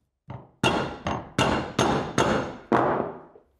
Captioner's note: thud banging